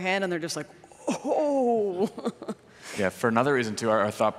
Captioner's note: laughs